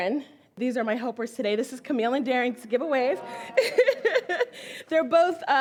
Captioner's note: laughs